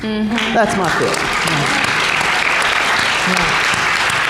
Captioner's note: applause